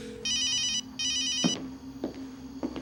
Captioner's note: ominous music; phone ringing; footsteps clomping